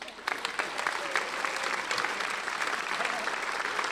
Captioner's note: applauding